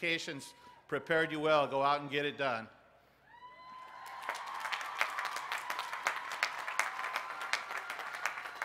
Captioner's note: applause